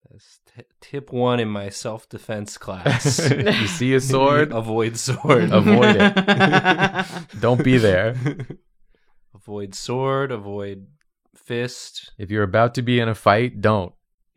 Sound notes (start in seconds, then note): 5.1 laughter